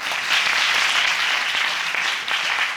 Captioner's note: audience applauding